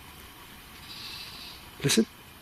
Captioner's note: trilling